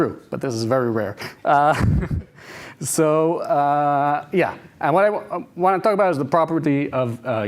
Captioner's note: laughs